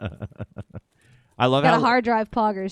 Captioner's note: laughing